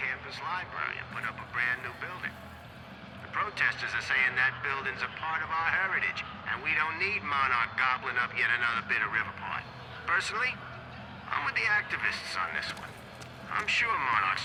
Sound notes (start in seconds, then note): 0.0 on the radio; 3.7 on the radio